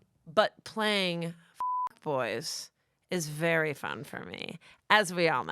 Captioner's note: beep